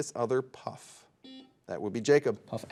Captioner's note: buzzer dings